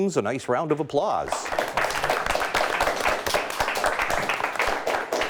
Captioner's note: audience applauding